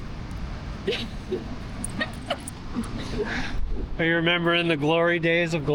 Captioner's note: laughter